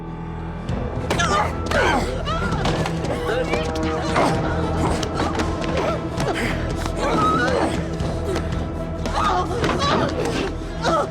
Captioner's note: Marcia screaming